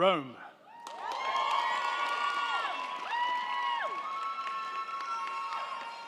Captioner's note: crowd cheering; crowd clapping